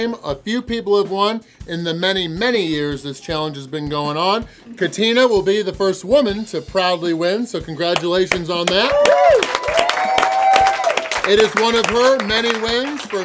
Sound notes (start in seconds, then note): 8.6 cheering & Clapping